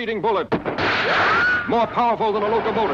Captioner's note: Superman pings